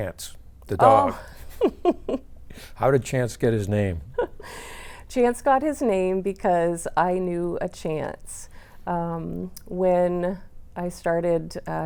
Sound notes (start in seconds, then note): 0.9 laughing